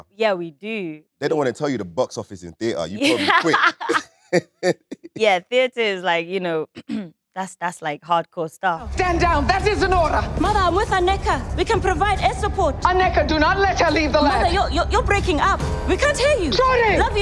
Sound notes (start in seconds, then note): 2.9 Letitia laughing